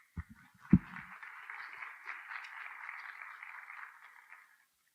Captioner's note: applause